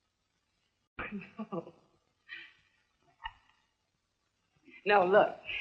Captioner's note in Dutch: lachend